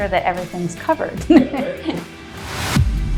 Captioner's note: laugh